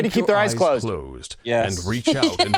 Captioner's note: laughs